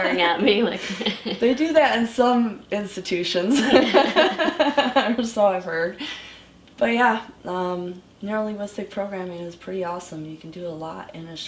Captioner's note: laughs; both laugh